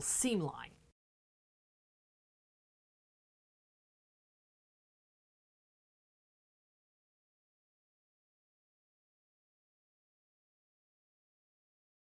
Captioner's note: no Sound Present